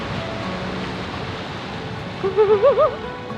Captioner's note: waves splash on boat; laughs